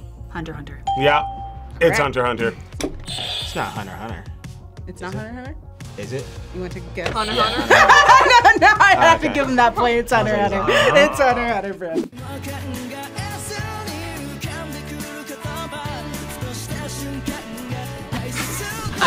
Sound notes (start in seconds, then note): 0.8 bell rings; 3.1 buzzer rings; 7.1 buzzer rings; 11.9 upbeat music